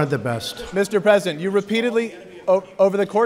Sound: off-mic

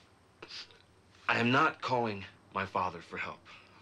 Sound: sniffles

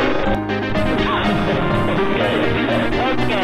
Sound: Null laughs out of frustration

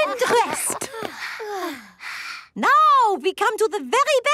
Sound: panting

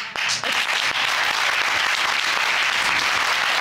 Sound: audience clapping

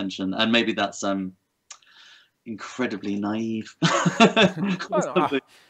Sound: laughter

